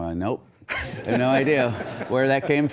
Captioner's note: audience laughs